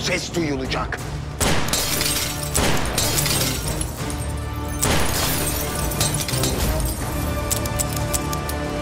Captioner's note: gunshots; glass breaking sound